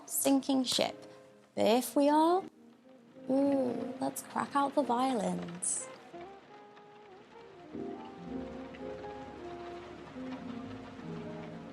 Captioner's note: rain patters over jazz music